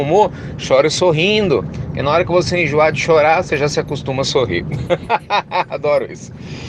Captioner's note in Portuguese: Risos